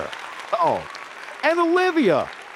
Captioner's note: audience applauding